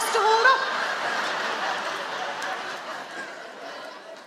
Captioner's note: audience laughing